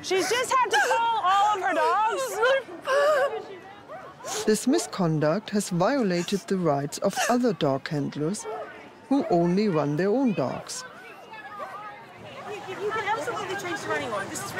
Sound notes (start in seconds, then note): 2.6 crying